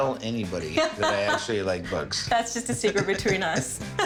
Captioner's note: laughs; both laugh